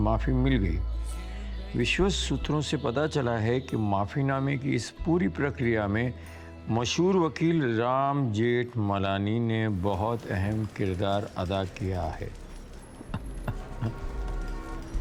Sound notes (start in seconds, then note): 8.0 door opens